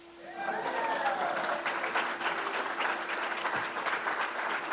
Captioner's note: crowd applauds